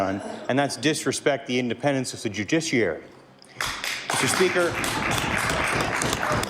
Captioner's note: applause